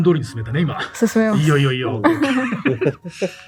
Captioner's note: laughs